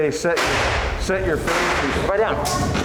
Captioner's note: gun fires